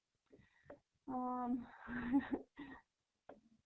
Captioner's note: laughter